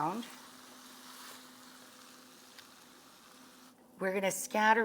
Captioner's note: pan sizzling